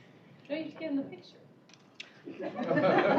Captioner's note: indistinct chatter; laughter